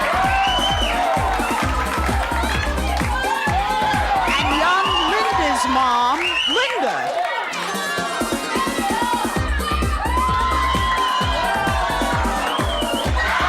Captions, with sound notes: - And young Linda's mom, Linda! (upbeat music) (audience cheers)